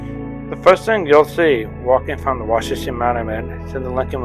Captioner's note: voiceover